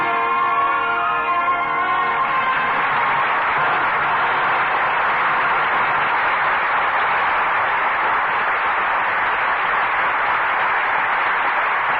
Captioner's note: applause